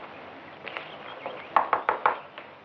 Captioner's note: knocking